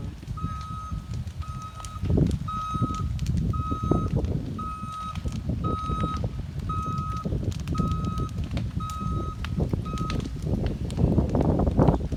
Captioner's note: Skidloader beeping